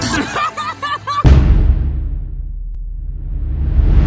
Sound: both laughs

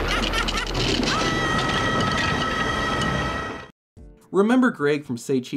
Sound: thunder clapping; Slappy yelling

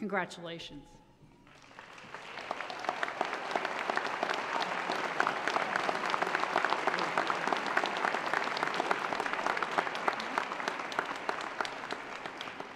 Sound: applause

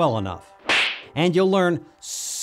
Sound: boxer punch smack sound

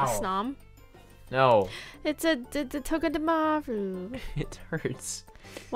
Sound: gasp

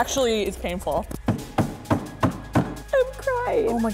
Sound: pounding

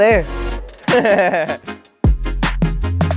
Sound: laughs

